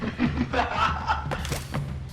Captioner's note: laughter